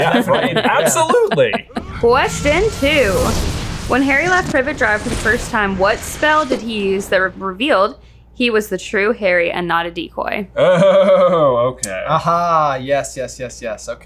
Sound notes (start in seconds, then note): 0.0 laughs; 1.6 explosion noise